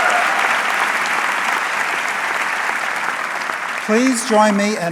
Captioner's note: audience clapping